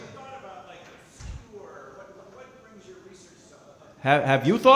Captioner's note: speaking softly